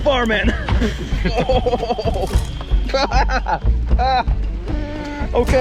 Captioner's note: chuckles